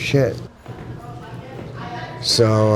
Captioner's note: people chattering